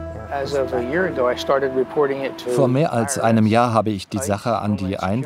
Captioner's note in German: englisch